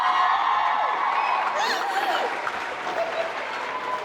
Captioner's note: crowd cheering; crying